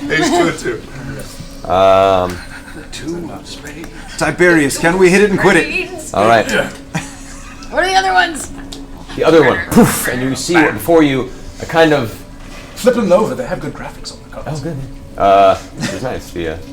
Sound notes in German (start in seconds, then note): 0.0 Gelächter; 10.4 puff